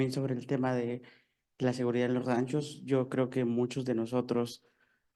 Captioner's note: speaking in foreign language